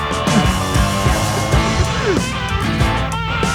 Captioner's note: chuckling